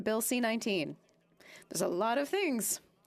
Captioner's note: speaking French